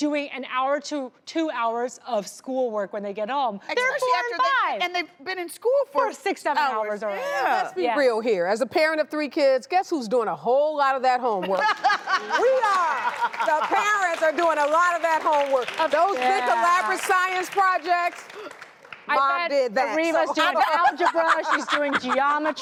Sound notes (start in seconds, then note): 11.4 Vivica laughs; 13.3 crowd applauds